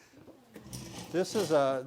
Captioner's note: metal scraping